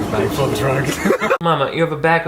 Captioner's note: Shane and Jeffree giggling